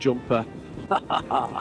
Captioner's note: laughs